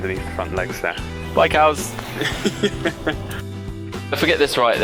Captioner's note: laughing